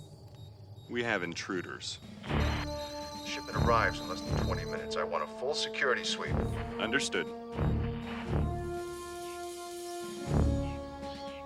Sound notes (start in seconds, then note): 2.5 beeping; 8.5 dramatic music